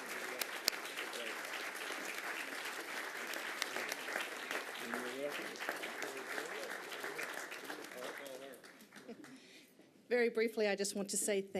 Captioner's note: applause